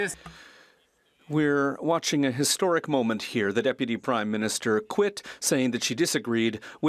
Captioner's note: speaking French